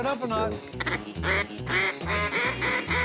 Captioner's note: duck calls